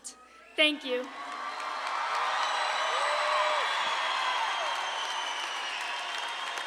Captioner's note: audience clapping and cheering